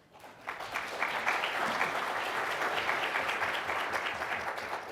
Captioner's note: audience applauding